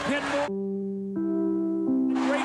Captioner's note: nbc chime